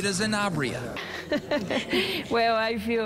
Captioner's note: laughs